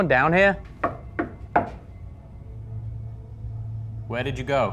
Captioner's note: knocking